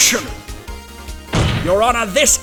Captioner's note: slam